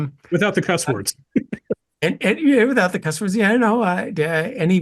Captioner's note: laugh